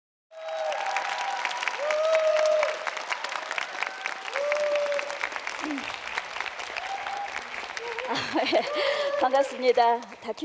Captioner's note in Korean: 박수와 환호